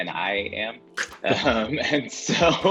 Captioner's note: laughs